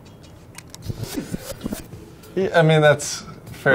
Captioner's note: tape rewinding